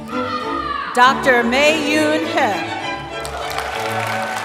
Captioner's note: applause